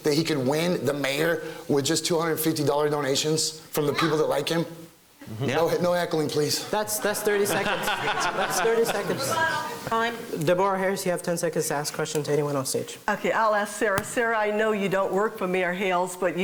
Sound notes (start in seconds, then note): 6.6 laughing